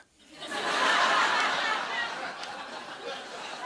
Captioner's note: laughter